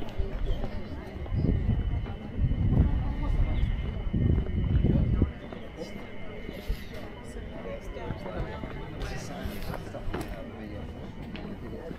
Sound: people chattering

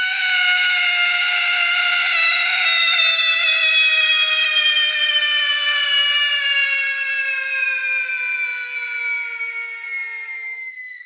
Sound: terrified teddy bear screams

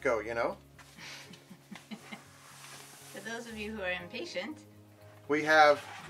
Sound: chuckles

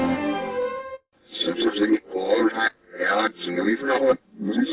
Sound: orchestral music plays backwards; PC voices chattering backwards

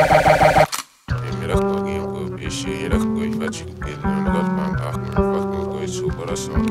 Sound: tape back masking; gentle eerie music

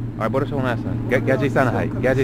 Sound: somali

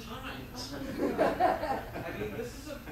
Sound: audience laughs

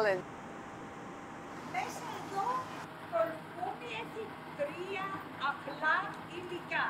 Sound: speaking Greek

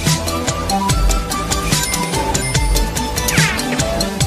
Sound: rings chiming

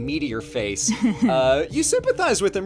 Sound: laughs

